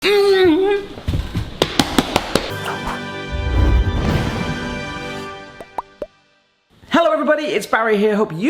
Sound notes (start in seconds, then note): 1.1 slaps counter; 2.5 triumphant music